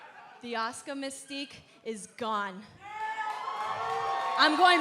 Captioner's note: cheers & applause